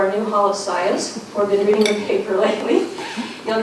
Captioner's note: laughs